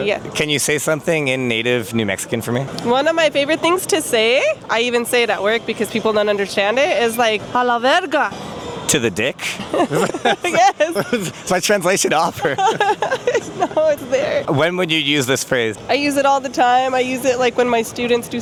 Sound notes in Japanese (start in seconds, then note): 9.4 笑っている; 13.1 笑いながら